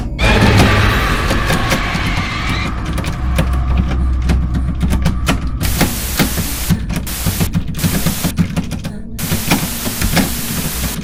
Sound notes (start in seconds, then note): 0.2 peter startled; 5.9 tv static with paranormal ambience